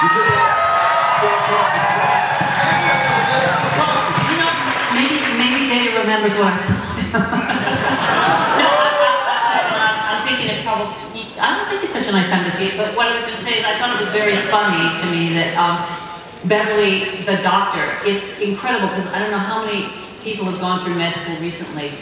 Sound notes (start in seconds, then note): 2.5 cheers